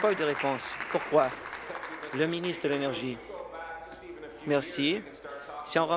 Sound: applause

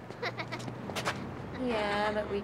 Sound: kids chuckling

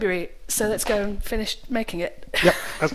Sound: laughs

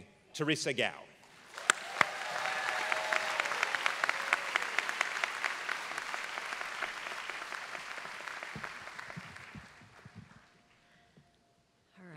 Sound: applause

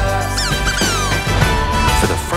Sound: laughing

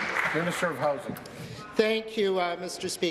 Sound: applause

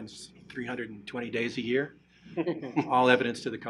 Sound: laughing

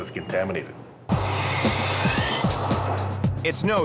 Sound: sprinkler whizzing

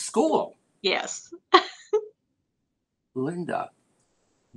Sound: laughter

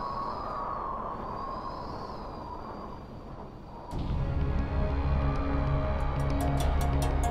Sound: wind Howls

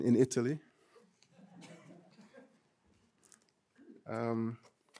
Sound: audience chuckling

